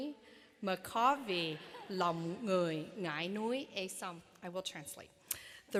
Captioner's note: speaking vietnamese